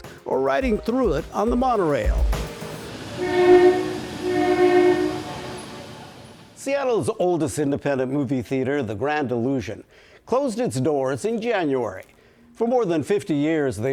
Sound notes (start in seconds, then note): 2.4 monorail horn honking